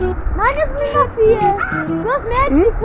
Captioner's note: scream